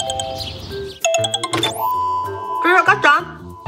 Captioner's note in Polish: sygnał przychodzącego połączenia